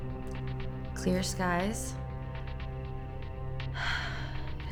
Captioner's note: sighs